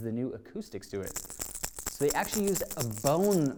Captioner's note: bait rattling